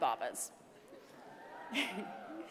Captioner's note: laugh